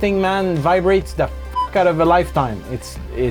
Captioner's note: beep